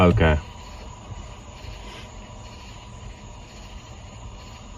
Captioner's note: crickets chirping